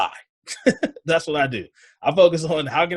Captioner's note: laughs